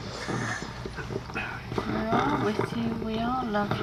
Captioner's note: ragged Breathing